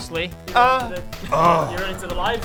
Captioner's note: ugh